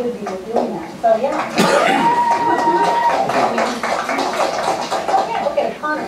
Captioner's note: applause